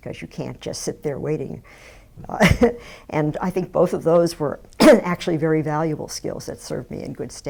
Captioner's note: laughs